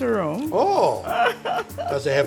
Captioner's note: laughs